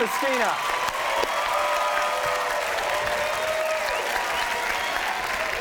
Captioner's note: audience cheers and applauds